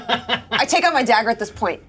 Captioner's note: Omin chuckles